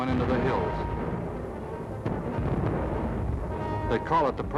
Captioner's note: booming